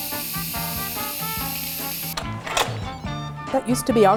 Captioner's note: hissing